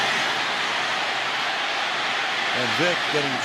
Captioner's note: cheering